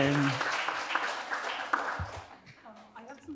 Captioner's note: audience applauding